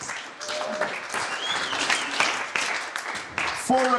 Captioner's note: applause